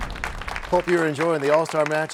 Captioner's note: crashing sound